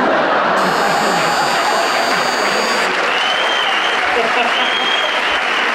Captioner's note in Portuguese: campainha